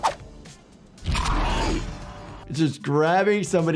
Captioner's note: monster growls